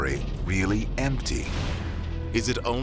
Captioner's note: whoosh